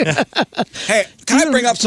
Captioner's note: laughing